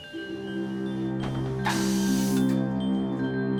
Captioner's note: soft music playing; air hissing